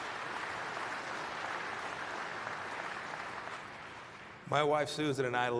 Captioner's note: applause